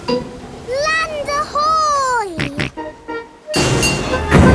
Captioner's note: snorts